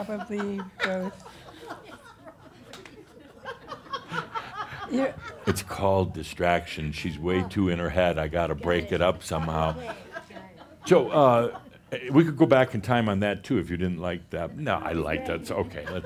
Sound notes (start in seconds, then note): 0.0 is laughing; 9.3 laughing